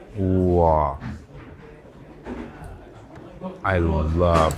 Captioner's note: people chatter; item knocks